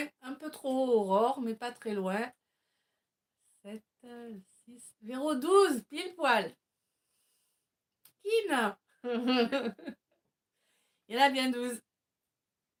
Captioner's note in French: rires